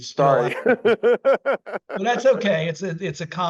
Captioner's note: laughs